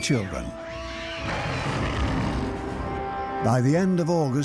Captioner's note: girl screams and animal snarls